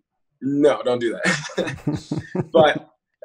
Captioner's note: chuckles